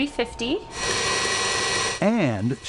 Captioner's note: mixer whirring